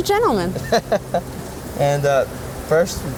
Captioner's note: laughs